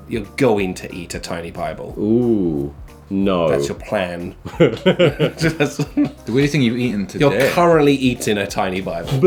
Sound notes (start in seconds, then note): 4.4 laughing